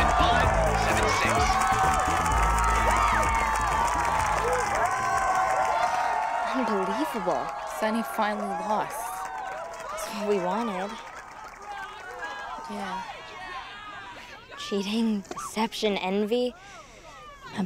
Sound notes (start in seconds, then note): 1.5 crowd cheering